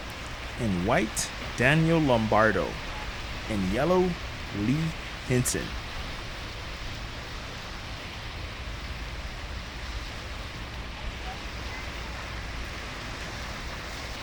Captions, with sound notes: in White Daniel Lombardo, in Yellow Lee Henson. (water rushing)